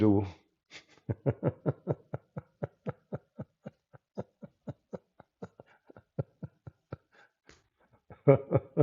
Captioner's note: Ketawa